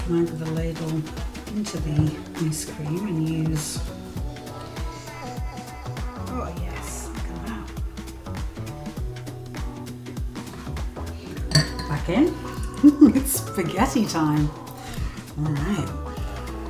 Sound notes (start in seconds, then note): 10.5 slurp